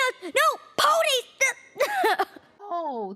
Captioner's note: cries